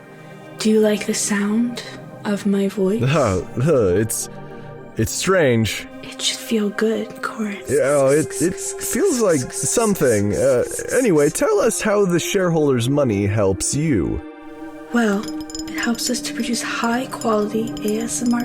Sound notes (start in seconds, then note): 14.9 begins to tap on glass